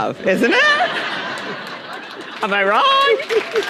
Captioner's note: audience laughing; audience applauding